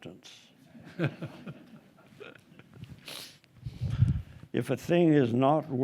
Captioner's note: group laughing